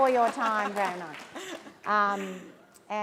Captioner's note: laughter